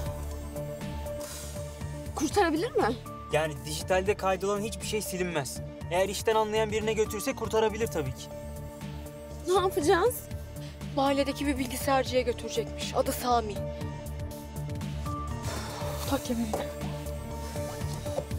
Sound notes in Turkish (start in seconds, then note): 0.1 Üfleme sesi